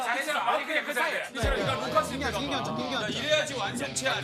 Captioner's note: urgh